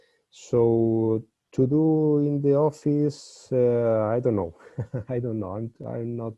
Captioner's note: laughs